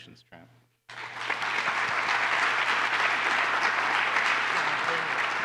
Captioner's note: applause